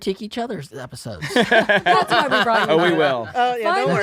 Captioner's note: laughing